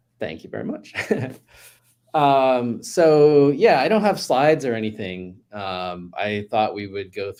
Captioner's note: chuckles